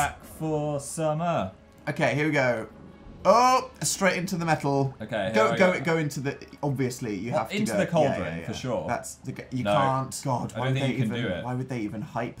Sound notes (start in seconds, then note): none